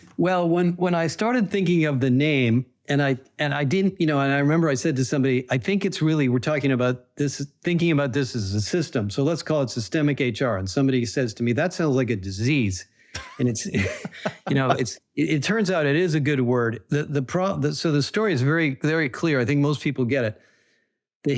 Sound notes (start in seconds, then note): 13.1 both laugh